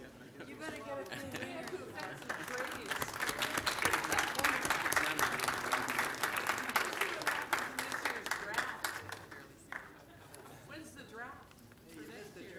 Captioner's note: applause